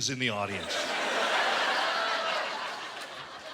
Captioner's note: laughter